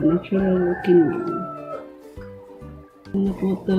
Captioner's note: rooster cries